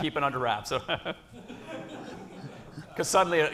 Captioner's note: laughter